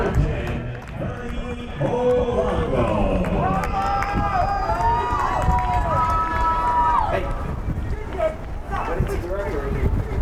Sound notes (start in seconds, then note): 2.8 crowd cheers